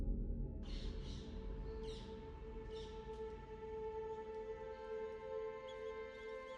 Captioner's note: suspenseful music; somber music; birds chirping